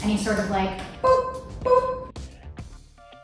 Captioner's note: boop